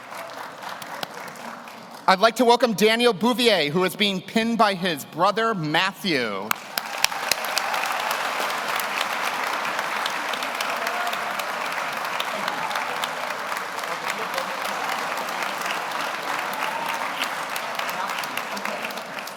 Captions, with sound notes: I'd like to welcome Daniel Bouvier, who is being pinned by his brother, Matthew. (audience cheers) (audience applauds)